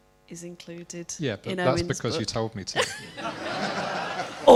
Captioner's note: laughter